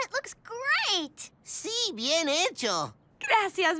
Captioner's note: none